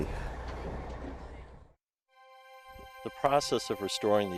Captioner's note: engine rumbling